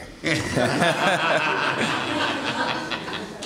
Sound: laughing

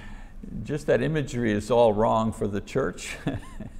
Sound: chuckling

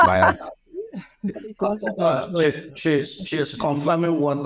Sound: laughs; chuckles

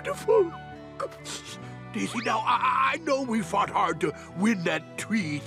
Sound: sniffling

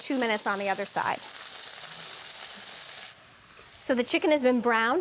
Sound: sizzling

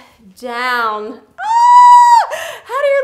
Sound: screams

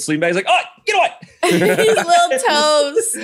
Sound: all laugh

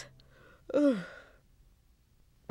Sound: mother sighs

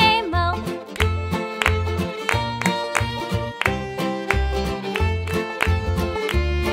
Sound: clap

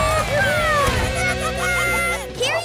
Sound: chattering

